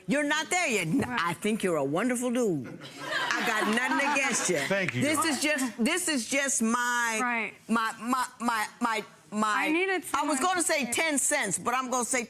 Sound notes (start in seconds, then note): 2.9 audience laughs